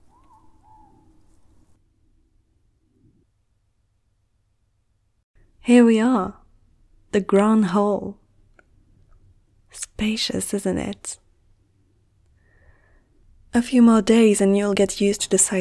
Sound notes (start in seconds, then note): 0.8 long Pause